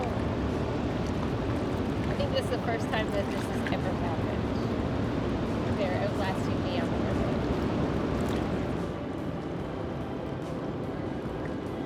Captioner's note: fish splashing